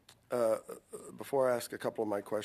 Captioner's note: speaking French